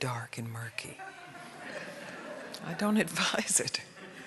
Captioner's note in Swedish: alla skrattar